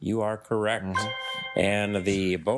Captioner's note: triumphant chime